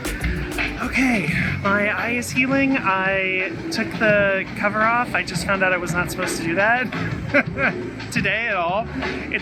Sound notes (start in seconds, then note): 2.1 buoyant music; 7.1 laughing